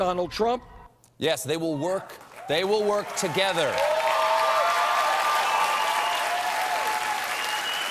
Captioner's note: cheers and applause